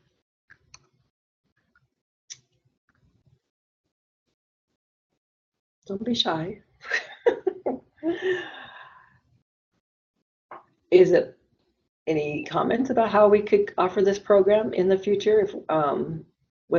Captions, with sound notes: Don't be shy. [LAUGHS] Is it any comments about how we could offer this program in the future